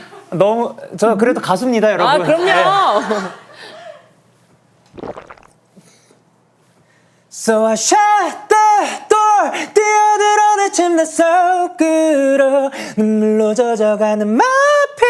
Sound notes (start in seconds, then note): 3.8 clearing his throat